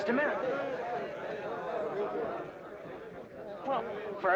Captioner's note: crowd chattering